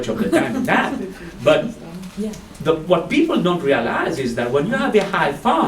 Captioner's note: laugh